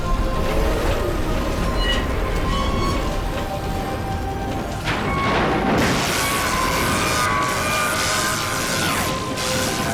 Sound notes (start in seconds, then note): 7.7 scream